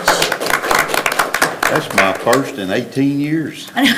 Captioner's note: everybody applauds